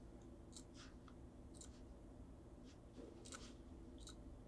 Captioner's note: mouse clicking